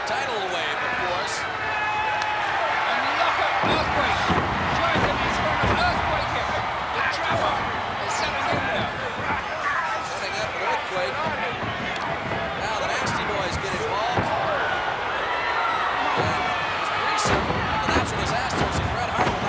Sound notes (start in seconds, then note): 2.0 hands clapping; 3.4 footsteps plodding; 15.1 blows thudding; 15.1 footsteps plodding